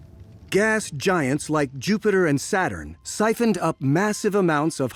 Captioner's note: none